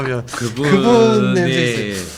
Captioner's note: laughing